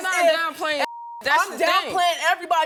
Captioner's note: beeping